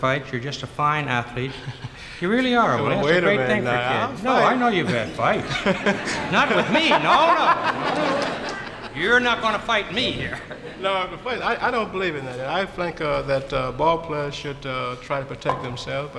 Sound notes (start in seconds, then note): 1.8 Willie laughs quietly; 5.8 audience laughs; 6.5 Willie laughs